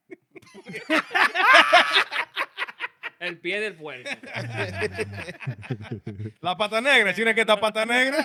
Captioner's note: laughing; speaking In Foreign Language